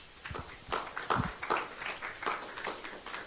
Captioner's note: applause